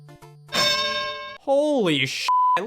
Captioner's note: bell dings